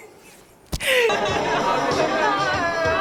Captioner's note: laughing